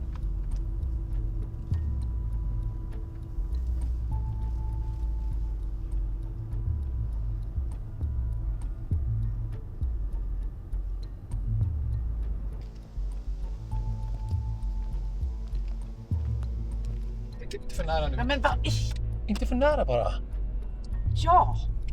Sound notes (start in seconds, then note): 13.0 footsteps on stony ground; 13.0 threatening ambient music